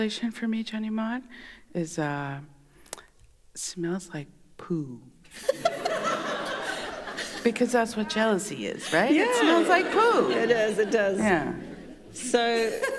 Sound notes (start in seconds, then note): 0.6 In Mi’kmaq; 5.3 laughter